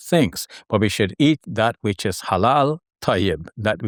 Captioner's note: foreign language